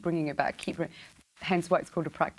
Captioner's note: snapping fingers